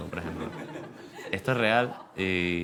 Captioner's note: laughter